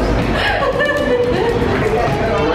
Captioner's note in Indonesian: Ketawa